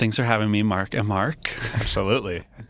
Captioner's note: chuckles